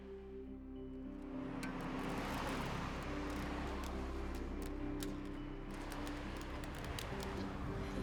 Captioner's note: sound of cars driving by and a cane across the ground